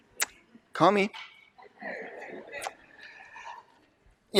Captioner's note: laughter